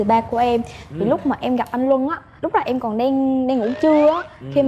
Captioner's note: none